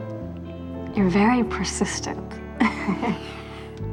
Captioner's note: chuckles